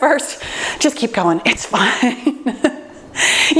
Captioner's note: laughs